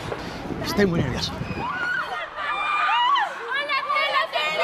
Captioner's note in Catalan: crits i xiscles